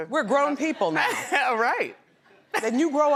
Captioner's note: laughs